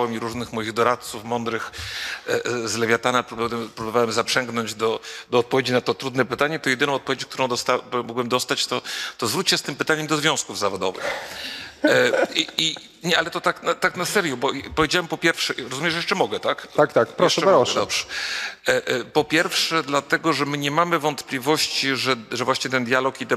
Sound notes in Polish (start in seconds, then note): 11.8 śmiech